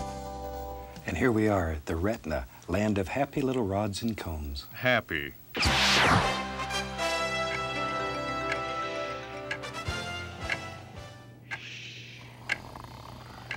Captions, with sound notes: AND HERE WE ARE AT THE RETINA, LAND OF HAPPY LITTLE RODS AND CONES. HAPPY. [ CLOCK TICKING ] [ MAN SNORING ]